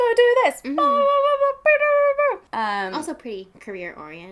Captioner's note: beeping noises